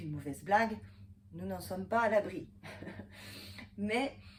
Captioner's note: laughter